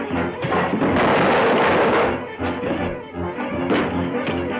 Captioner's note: table crashes